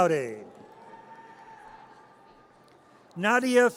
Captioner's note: audience cheers